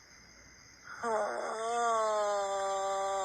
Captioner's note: screaming